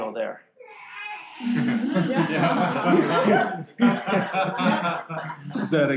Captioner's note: laughter